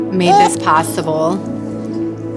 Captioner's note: baby cooing